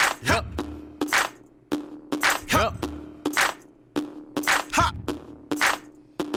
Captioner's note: foreign language